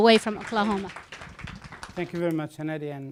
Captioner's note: applause